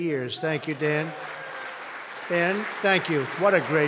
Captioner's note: applause